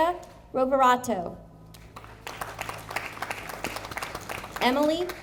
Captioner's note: audience applauding